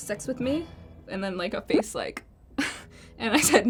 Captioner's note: laughs